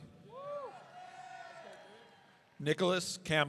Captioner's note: audience cheering